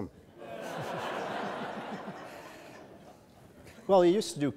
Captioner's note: audience laughs